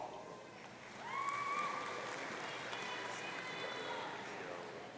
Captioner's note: audience cheering